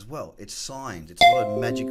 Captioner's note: notification pings